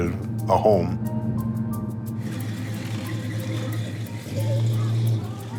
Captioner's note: engine rumbling